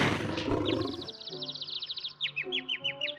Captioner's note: birds chirping